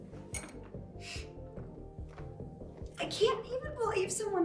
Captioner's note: sniffles